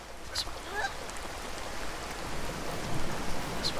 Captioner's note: none